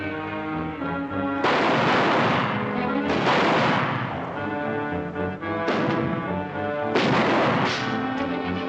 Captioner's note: gunshots - tense music